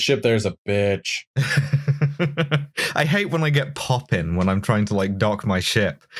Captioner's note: laughter